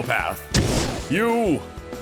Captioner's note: fwoosh